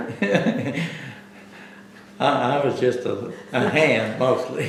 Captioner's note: laughs